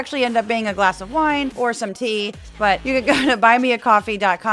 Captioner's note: laugh